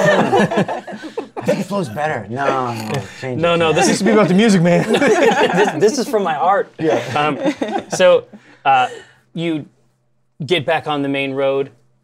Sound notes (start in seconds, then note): 0.0 laughter; 4.6 laughter